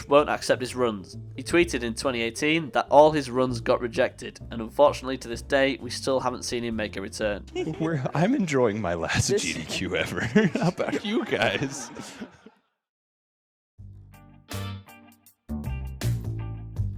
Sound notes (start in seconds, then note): 11.6 laughter